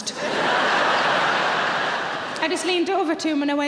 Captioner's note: audience laughing